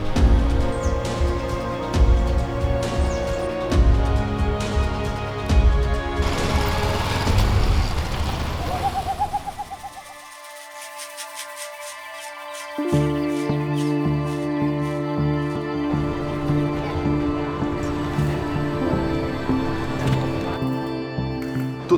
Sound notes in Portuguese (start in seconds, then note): 8.1 pássaros e chocalho; 12.5 trilha de fundo esperançosa